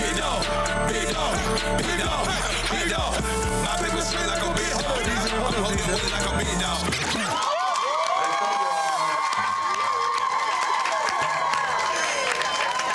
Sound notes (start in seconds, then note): 3.7 hip hop music continues; 6.8 crowd cheering